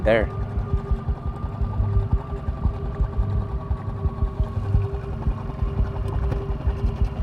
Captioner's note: boat engine droning; suspenseful music